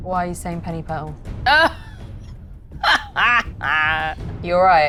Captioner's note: Mayanna cackles